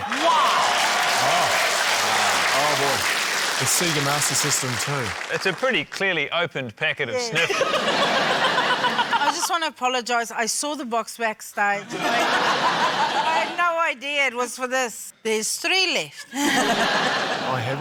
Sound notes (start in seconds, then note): 0.0 cheering, applause; 7.3 laughter; 12.5 laughter; 16.2 laughter; 16.3 chuckles